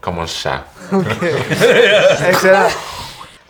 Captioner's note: laughs